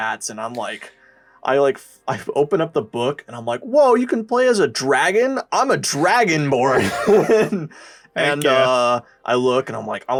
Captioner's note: laughs